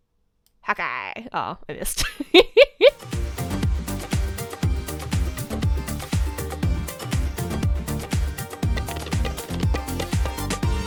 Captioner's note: laughing